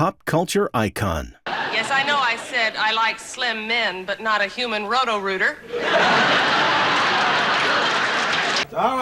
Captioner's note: laughter